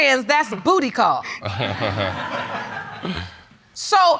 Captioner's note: all laughing